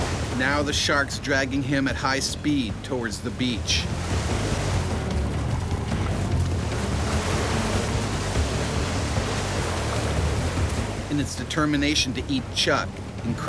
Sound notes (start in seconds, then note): 0.0 splashing; 0.3 voiceover; 4.0 water splashes